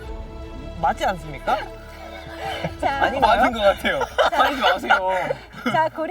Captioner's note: laughs